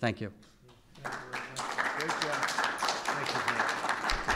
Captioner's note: applause